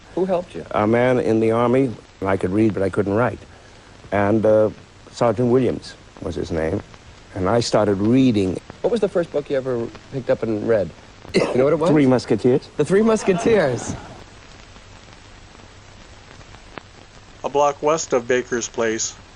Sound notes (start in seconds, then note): 13.0 audience laughing